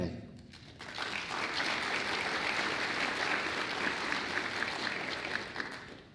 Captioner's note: applause